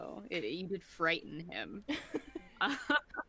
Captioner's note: both laughing